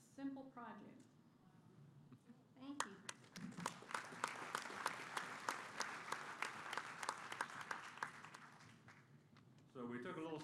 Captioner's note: applause